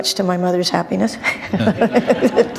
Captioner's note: laughter